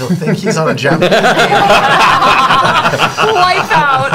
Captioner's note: laughter